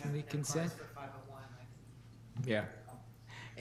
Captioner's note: speaking quietly